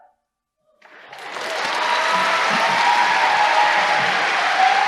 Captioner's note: cheers and applause